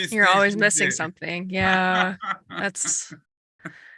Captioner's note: laughs